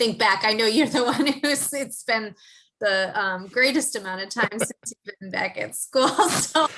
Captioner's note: laugh